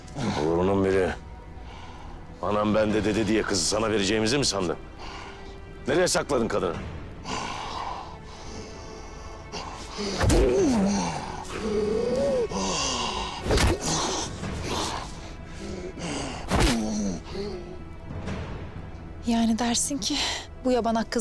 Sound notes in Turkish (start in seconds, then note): 7.2 Nefes ve Vurma Sesleri